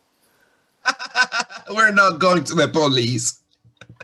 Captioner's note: laughs